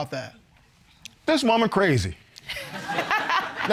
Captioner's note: laughing